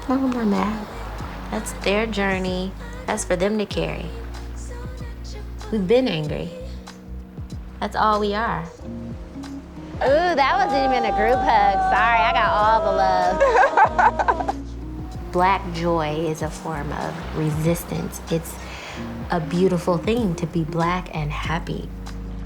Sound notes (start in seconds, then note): 13.5 laughing; 22.2 soft music